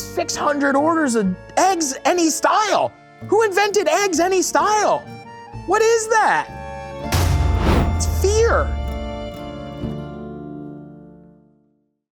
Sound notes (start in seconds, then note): 7.1 title thuds; 10.4 dramatic music ends